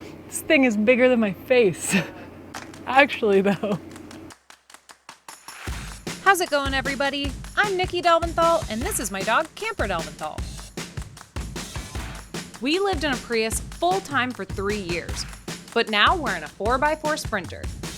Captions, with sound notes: - This thing is bigger than my face, (chuckles) actually though. (upbeat music) How's it going, everybody? I'm Nikki Delventhal, and this is my dog Camper Delventhal. We lived in a Prius full-time for three years, but now we're in a four by four sprinter.